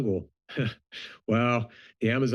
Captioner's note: chuckles